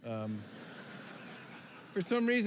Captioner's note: laughter